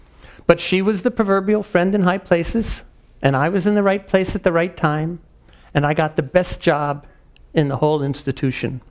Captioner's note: none